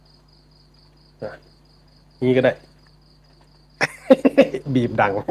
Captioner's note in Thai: เสียงหัวเราะ